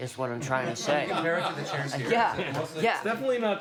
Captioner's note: laughter